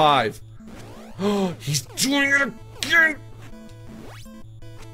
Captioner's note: gasps